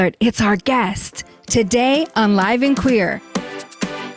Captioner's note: stage whisper; normal voice